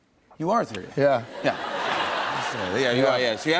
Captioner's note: laughter